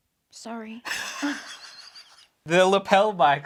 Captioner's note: wheeze-laughs